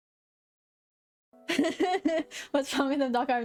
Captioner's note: laughing